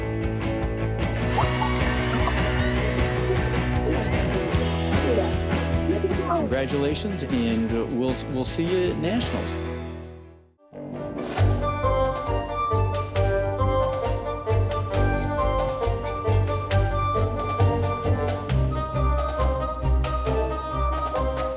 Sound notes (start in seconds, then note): 1.2 cheers and applause; 11.3 dramatic music plays